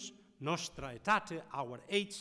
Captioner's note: speaking in foreign language